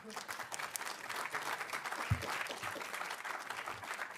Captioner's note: audience applauding